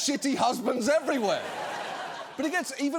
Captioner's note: studio audience laughing